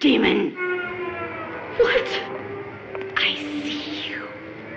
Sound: yelling

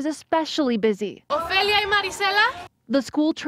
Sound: spanish

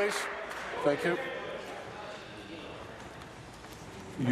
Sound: applause

